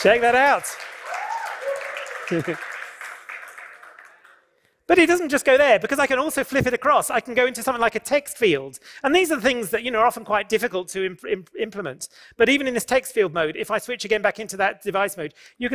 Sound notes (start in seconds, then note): 0.0 cheering and applause; 2.2 laughs